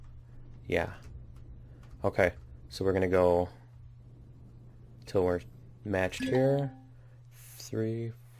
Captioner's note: ding